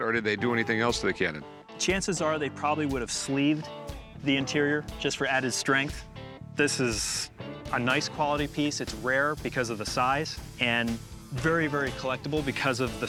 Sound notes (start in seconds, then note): none